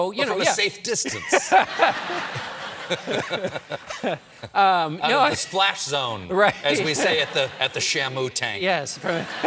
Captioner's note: laughter